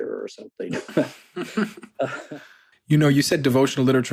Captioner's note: laughing